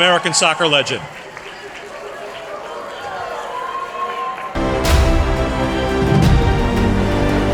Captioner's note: applause